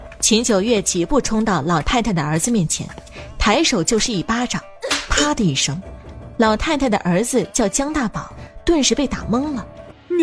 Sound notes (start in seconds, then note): 4.8 slap